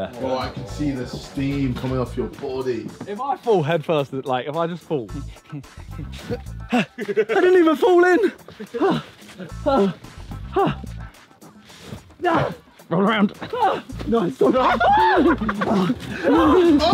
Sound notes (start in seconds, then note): 5.8 heavy breathing; 6.4 grunting; 8.3 heavy breathing; 14.4 all laughing